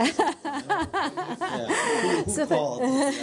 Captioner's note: laughter